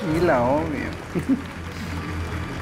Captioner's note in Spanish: Ríe